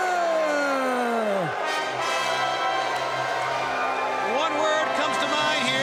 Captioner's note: audience cheering